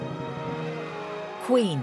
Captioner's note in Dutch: publiek juicht